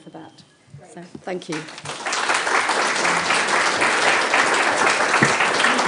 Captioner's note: applause